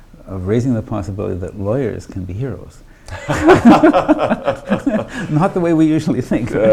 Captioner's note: laughs